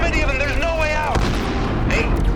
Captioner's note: explosion booms